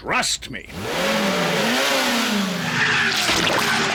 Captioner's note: revs engine